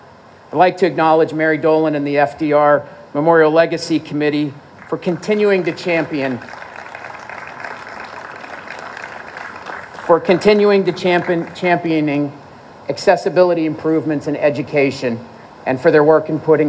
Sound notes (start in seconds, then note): 7.0 applause